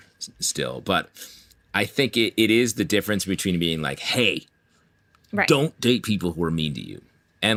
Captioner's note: harshly